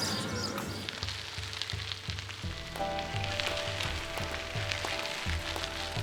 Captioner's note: wheels whirring down the road